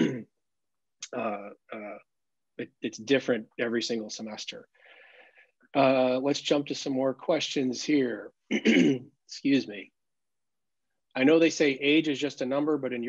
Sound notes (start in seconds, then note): 8.5 clears throat